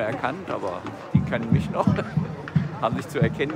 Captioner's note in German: lacht